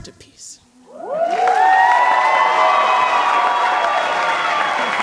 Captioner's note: cheering and applause